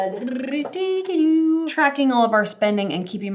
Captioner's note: hums playfully